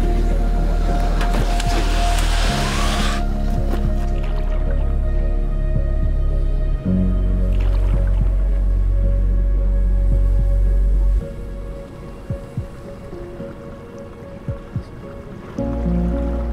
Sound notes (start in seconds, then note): 4.5 tense music; 4.5 water gurgling